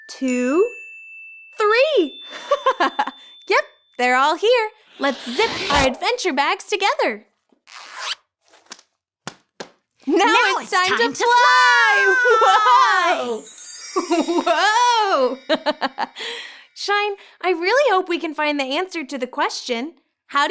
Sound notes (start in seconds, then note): 2.3 girl giggles; 15.6 girl giggles